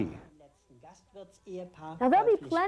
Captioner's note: German spoken in background